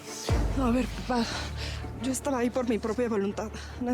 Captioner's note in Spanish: none